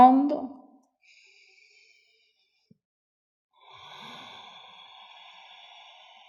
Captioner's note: inhale-exhale